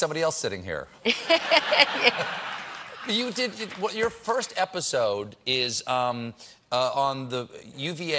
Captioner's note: laughter